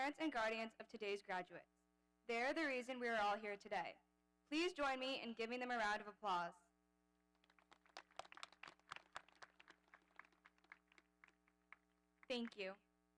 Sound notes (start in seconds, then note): 7.4 audience applauding